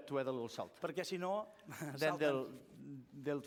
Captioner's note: non-english speech